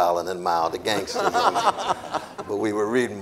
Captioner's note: audience laughing